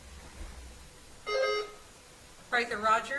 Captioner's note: bell ringing